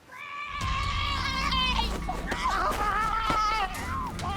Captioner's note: screaming